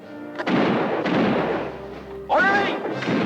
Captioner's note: guns fire